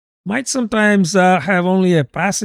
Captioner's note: uh